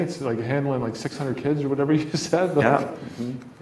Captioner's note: laughs